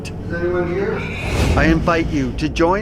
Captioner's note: disembodied whispering